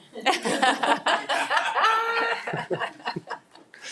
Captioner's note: people laughing